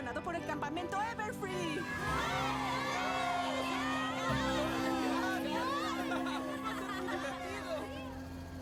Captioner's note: cheers